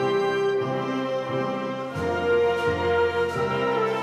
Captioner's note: crowd cheers